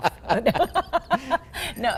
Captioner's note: laughing